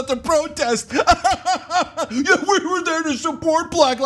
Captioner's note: laugh